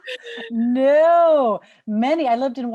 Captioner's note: laughter